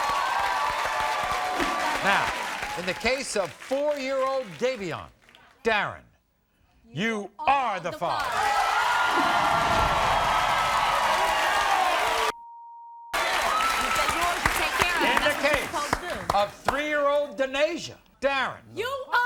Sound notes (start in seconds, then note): 8.1 crowd roaring